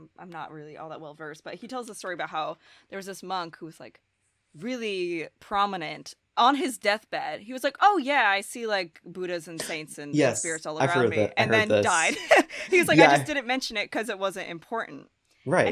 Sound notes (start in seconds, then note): 11.3 laughs loudly